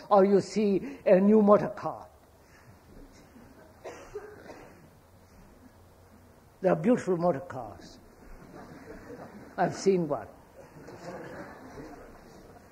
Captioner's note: laughter